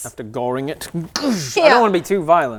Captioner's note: goosh